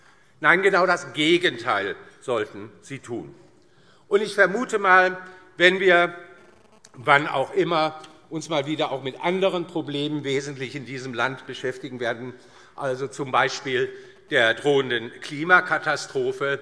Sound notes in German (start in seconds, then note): none